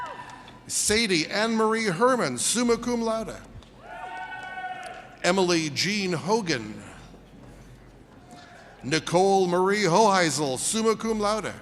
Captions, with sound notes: (audience cheers) Sadie Anne-Marie Herman, summa cum laude. (audience cheers) Emily Gene Hogan. Nicole Marie Hoheizel, summa cum laude.